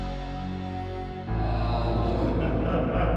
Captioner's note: ghostly Voice; man laughing